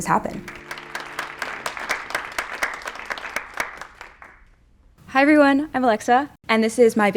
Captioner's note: applause